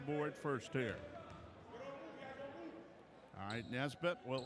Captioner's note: ball pounding; yelling